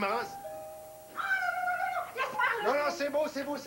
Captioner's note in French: ding! dong!